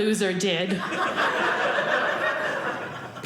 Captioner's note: audience laughing